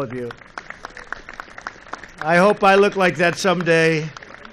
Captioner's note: applause